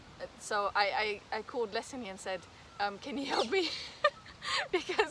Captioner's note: risos